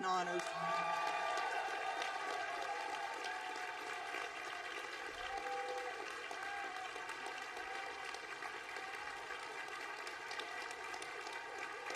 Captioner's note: applause